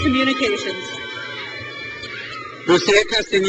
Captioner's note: crowd cheers